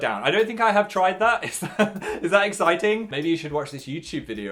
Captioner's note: laughs